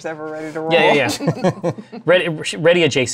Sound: laughter

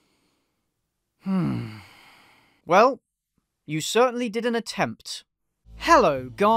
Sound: sigh

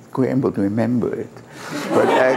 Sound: laughter

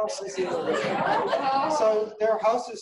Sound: laughing

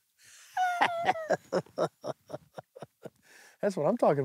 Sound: laughs

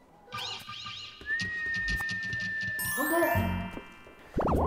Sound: whistling

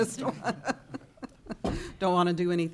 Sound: laughing

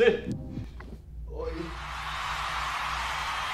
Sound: the crowd cheers

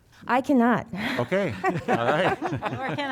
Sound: laughter

